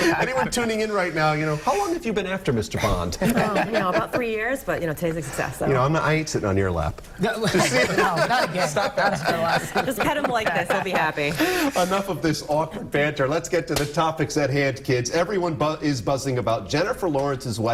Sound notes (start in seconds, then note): 3.1 laughter; 11.3 laughter